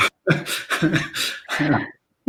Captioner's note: laughter